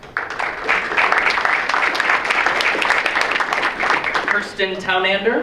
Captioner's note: audience applauds